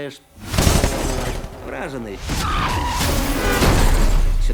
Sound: rapid gunfire; tires squeal; honking

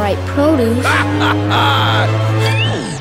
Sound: laughing

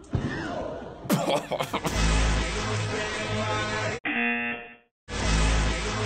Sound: buzzer

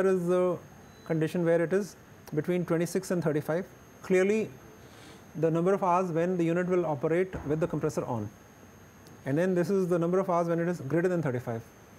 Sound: air conditioning

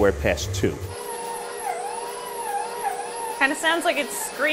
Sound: mixer squeaking

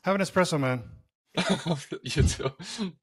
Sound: laughing

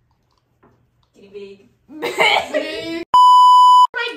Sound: laughing

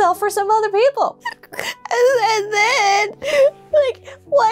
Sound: cries

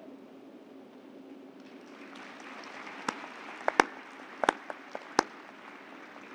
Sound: applause

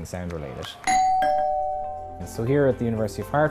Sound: doorbell

